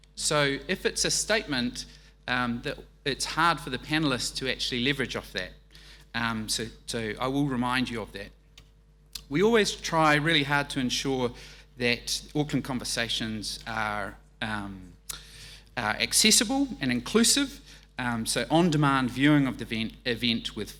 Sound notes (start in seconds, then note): none